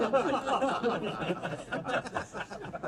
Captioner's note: crowd laughs